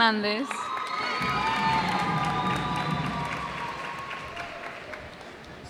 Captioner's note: cheers and applause